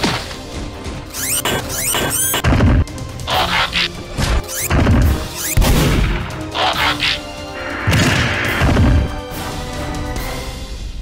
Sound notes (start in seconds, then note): 1.1 metallic Fighting sounds; 5.6 gunshot